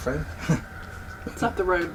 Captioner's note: chuckles nervously